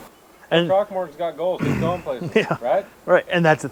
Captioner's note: clears throat